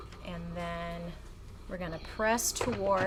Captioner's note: none